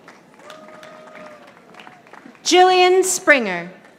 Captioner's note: audience applauding